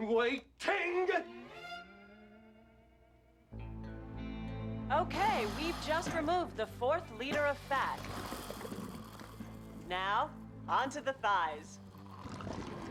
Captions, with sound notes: I'M WAI-TING! ( suctioning sound ) Woman:OK AY, WE'VE JUST REMOVED THE FOURTH LITER OF FAT. NOW, ON TO THE THIGHS.